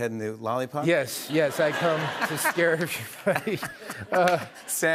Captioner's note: laughter